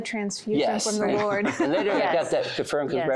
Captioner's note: giggling